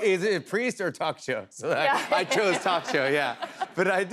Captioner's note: laughter